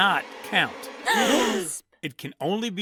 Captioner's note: gasps!